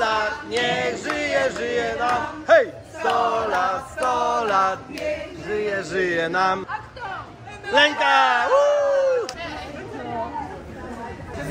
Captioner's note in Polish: Aplauz